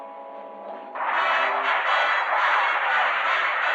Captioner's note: rockets whooshing